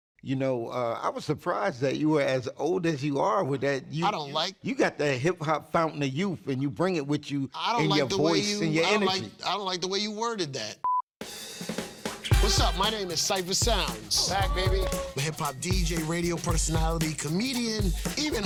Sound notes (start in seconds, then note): 10.8 beep; 11.6 upbeat music